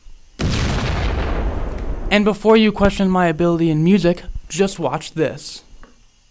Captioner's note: explosion effect and sound effect